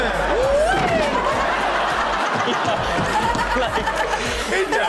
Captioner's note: everyone laughs